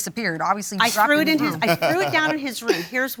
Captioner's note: laughter